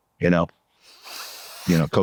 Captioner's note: sniff, sniff, sniff